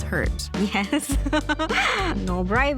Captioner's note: laughs